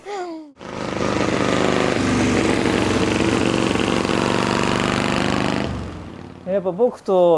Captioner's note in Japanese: エンジン音